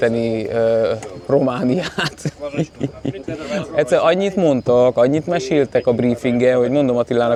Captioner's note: laughter